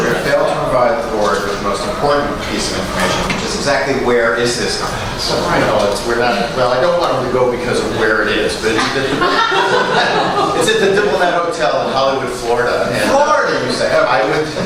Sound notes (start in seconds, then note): 8.7 laughter